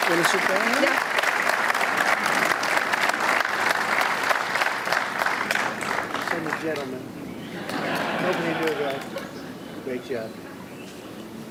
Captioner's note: applause